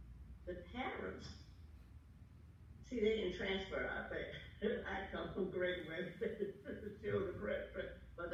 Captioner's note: laughter